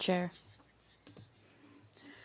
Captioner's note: speaking French